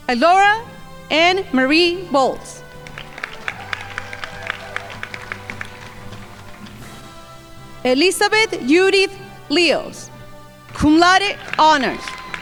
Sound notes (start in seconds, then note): 2.6 crowd applauding; 12.2 crowd applauding